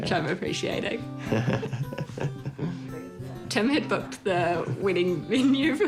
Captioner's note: both chuckle